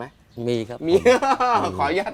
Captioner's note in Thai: เสียงหัวเราะ